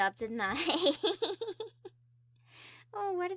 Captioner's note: more cute giggles